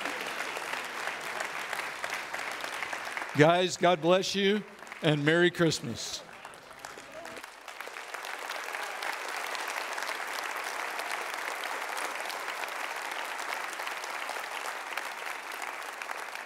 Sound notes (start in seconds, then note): 1.3 audience Applauds; 10.4 audience Applauds